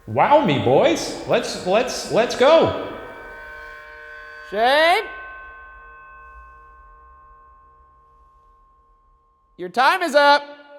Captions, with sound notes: Wow me, boys! Let's go! (eerie ringing) - Shane? Your time is up!